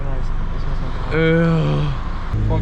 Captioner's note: disgusted dissapointed sound